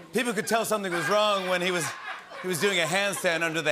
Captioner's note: laughter